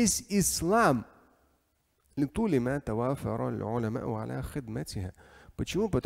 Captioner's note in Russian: Говорит на арабском